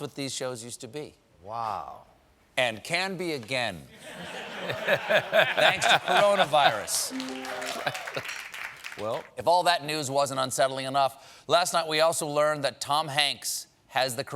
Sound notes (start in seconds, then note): 7.0 applause